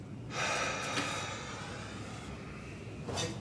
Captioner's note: Ron sighs